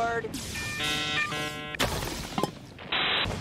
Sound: dial tone

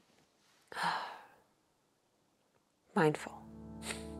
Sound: exhales heavily; chuckles

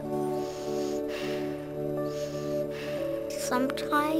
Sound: breathing heavily

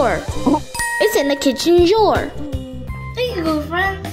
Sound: bell chiming

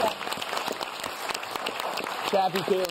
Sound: audience claps

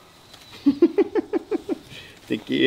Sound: laughs

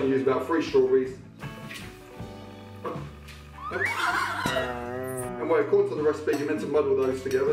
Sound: chill music; wooshing sound and disappointed boing

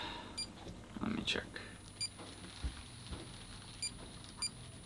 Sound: beeping

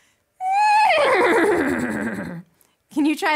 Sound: neighs

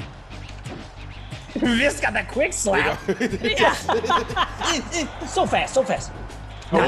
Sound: laugh

